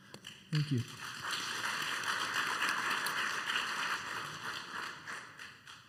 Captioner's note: applause